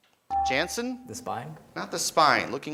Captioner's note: beeping